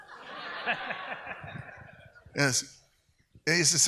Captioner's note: audience laughs